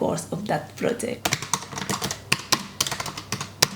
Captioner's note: typing